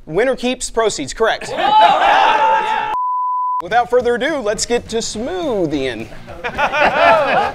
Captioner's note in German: shouting; lachen